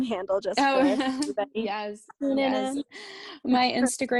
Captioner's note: laughter